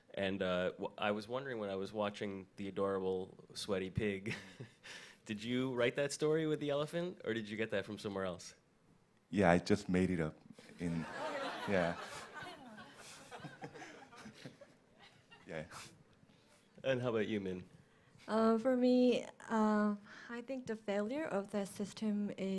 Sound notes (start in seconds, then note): 10.8 audience laughs